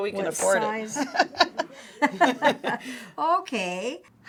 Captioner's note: both laugh